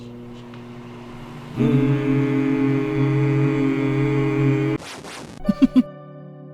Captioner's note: microwave powers on; mimic the microwave sound; giggles